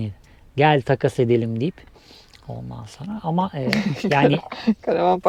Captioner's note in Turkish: kahkaha